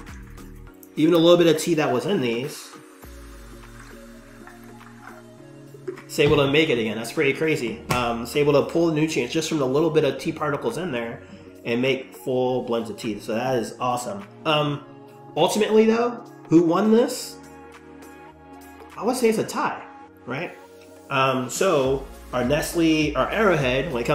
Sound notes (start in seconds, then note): 2.8 water trickling